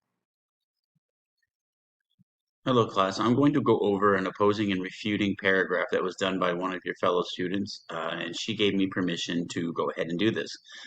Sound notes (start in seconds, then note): 0.0 silence